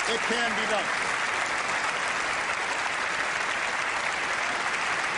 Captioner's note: applause